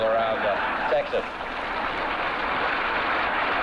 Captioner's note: audience laughs